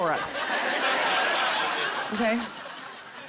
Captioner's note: laughter